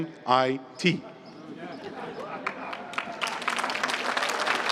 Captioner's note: applause